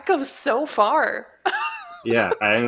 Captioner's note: laughs